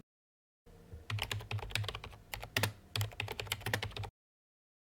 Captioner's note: typing